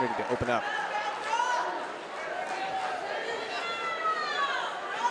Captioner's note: audience cheering